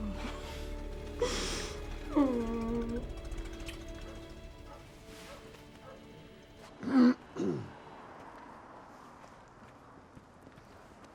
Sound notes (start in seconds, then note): 2.6 car approaching; 4.5 dog barking in distance; 7.4 clearing throat